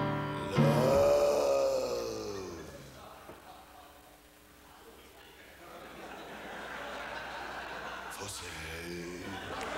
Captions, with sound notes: Love... …. [crowd laughs] for sale.